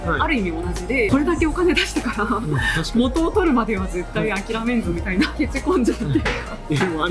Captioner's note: laughs